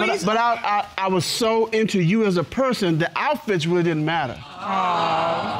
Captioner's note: stammers